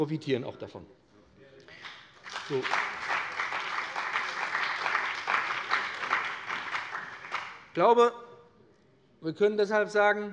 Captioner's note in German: Beifall bei dem BÜNDNIS 90/DIE GRÜNEN und der CDU